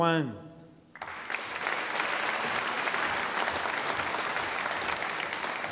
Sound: audience applauding

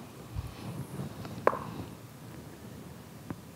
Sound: dice rolling

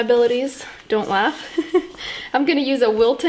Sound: giggles

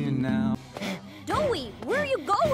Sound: breathing heavily while running

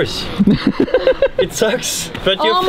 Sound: laughing

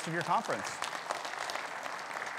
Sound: audience applauding

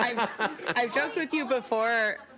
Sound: laughing

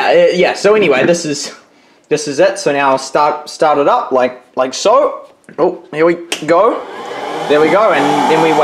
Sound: loud noise starts, like a blower

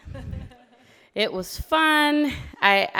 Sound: laughter

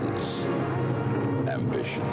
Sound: engines

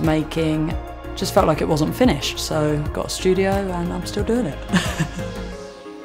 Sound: laughs

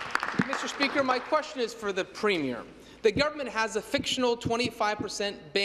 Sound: applause

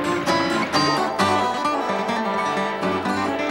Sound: train chugging

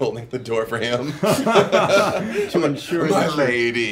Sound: laughing

